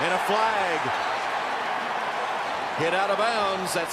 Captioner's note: cheering